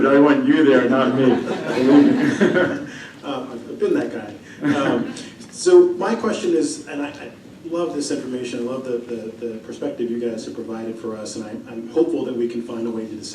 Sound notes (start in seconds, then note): 1.1 laughter